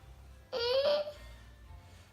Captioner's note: groans